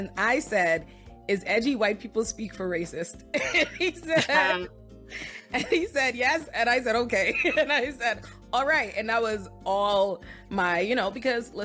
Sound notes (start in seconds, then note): 3.4 laughs